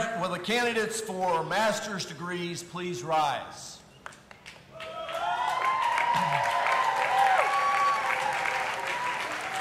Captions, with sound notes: Will the candidates for masters degrees please rise. (audience applauding and cheering)